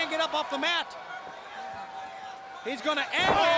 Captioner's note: crowd chatter